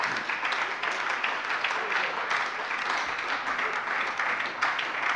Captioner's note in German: Beifall bei der SPD